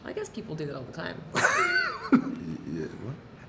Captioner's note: laughing